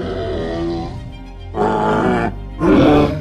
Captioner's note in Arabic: أصوات ترايسيراتوبس